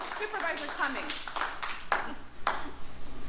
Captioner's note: applause